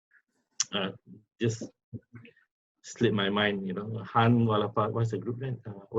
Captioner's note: foreign language